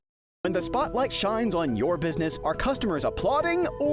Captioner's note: voice-over